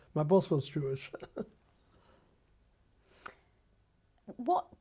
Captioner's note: laughs